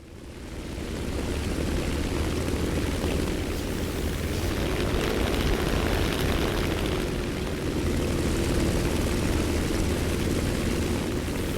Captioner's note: aircraft Engines ,Gunfire, Flying Sounds